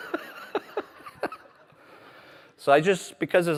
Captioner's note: laughter